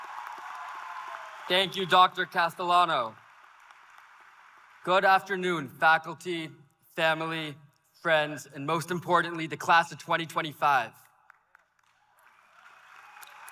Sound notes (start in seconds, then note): 4.5 applause